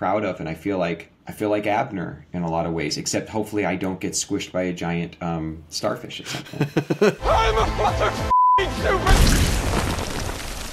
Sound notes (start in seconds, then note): 8.2 beeping